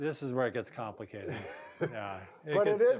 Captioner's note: laughs